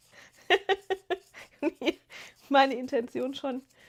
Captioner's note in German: gelächter